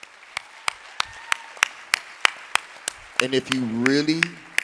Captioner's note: audience applauding